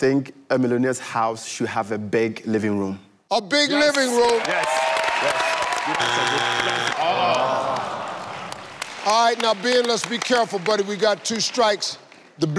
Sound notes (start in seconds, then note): 4.0 cheering; 5.9 buzzer; 7.3 groans